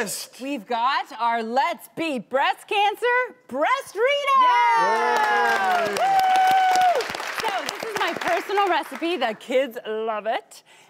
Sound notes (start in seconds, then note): 4.8 audience clapping